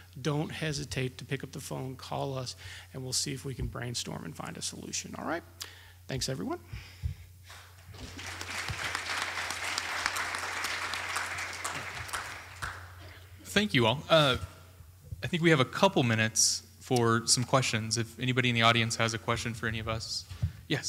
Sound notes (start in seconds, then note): 7.8 applause